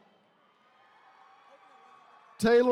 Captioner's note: attendees cheering